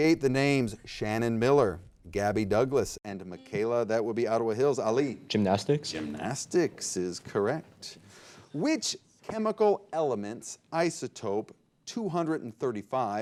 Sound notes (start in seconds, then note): 3.7 buzzer beeping